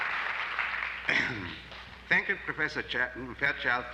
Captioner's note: applause; clearing throat